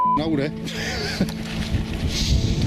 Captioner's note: laughs